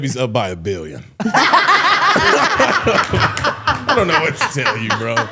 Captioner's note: all laughing